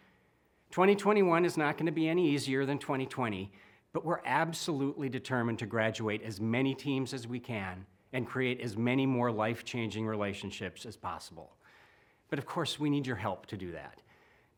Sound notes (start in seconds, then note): none